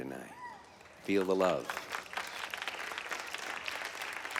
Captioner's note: light clapping